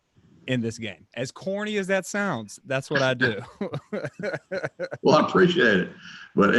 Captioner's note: chuckles